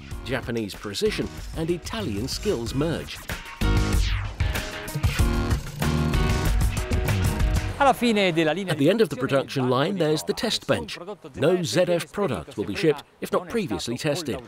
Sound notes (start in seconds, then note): 8.0 speaking in foreign language